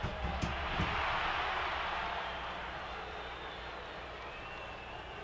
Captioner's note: audience roaring